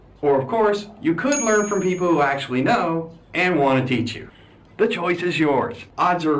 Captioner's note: ding